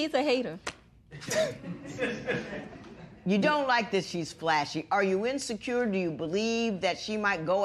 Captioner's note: laughter